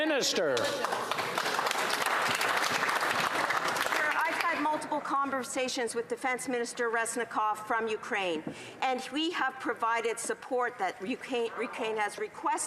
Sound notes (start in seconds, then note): 4.5 applause